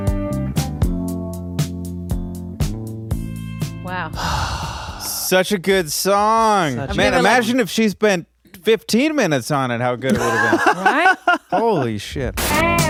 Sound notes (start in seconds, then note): 4.1 exhales; 10.1 laughing